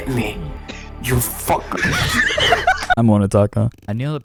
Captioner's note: explodes into laughter